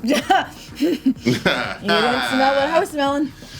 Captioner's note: laughs